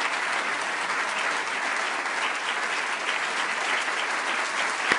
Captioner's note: applause